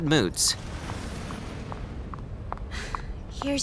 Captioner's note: footsteps approaching